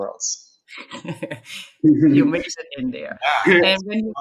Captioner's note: chuckling